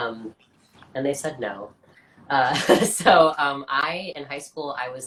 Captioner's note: laughs